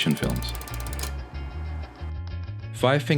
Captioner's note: film rattles; gentle upbeat music